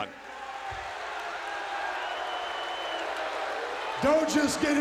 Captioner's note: crowd cheering